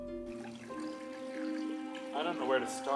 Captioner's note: water trickling